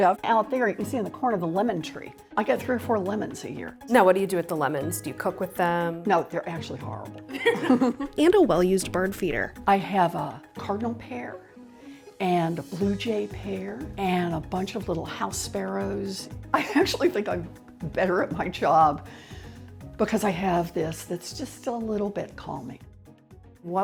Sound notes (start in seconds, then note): 7.3 both laughing